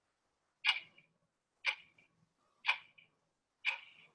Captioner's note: clock ticking